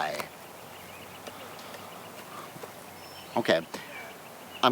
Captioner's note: birds chirping